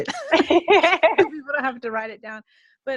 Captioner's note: laughing